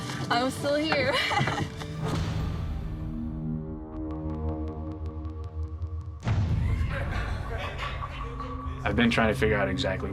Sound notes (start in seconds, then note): 1.0 laughing; 6.6 inmates laughing